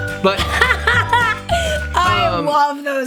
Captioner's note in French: rit bruyamment